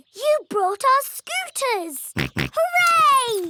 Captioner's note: snorts